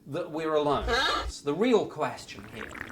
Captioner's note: parrot squawking